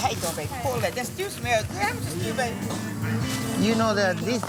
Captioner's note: customers chatting